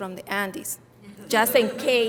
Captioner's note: audience laughing